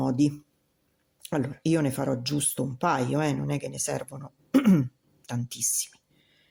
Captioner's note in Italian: schiarire la voce